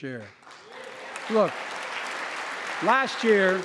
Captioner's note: applause